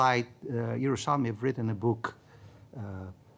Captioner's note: speaking in foreign language